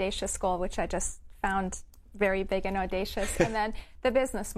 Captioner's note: laughs